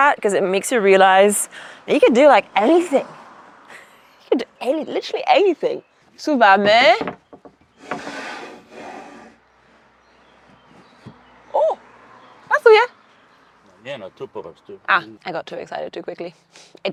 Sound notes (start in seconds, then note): 6.4 speaks foreign language; 12.0 speaks foreign language; 14.1 grandpa speaks foreign language